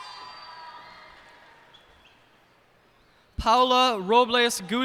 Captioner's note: cheers and applause